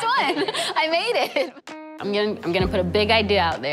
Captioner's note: laughs